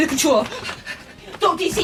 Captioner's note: panting